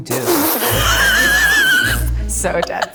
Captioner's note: laughs